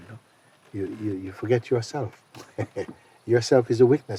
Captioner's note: Mooji laughs